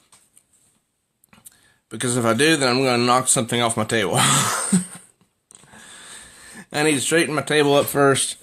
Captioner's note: coughs